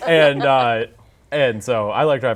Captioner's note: laughing